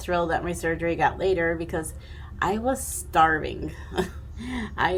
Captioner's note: chuckling